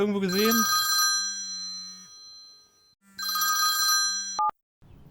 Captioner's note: telephone ringing